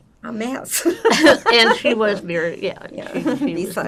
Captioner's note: laughing